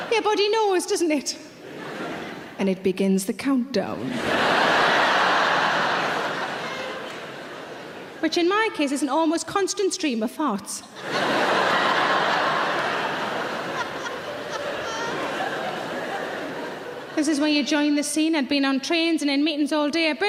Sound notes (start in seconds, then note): 4.0 audience laughing; 10.9 audience laughing